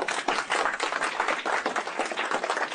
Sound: applause

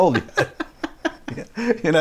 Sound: laughing

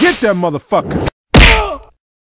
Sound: punch!

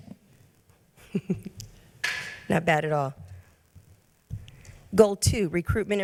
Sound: chuckles

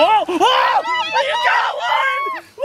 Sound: screaming

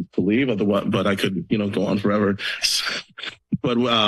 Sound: chuckles

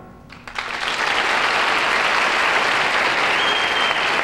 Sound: audience applauding

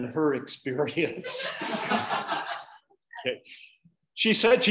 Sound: audience laughing

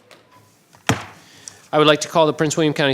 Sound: gavel bangs

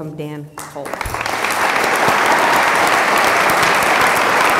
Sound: applause

